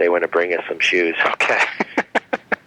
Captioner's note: laughs